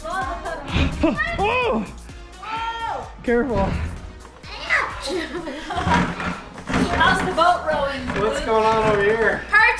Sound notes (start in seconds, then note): 1.3 screams